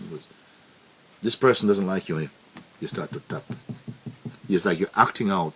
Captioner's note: taps on table